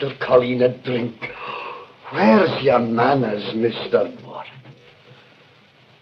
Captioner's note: gasp